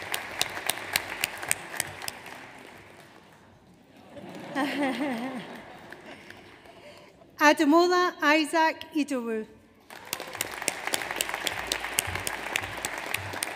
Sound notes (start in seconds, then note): 3.9 audience laughing; 9.8 audience applauds